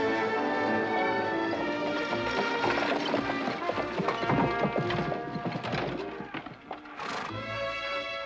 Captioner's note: triumphant music; buggy rattling